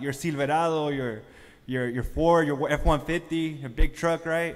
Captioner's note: speaking foreign language